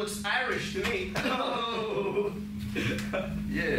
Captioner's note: both laugh